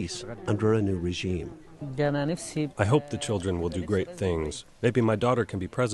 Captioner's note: through translator